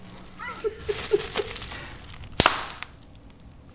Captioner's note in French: Rire